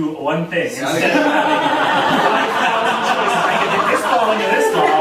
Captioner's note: audience laughing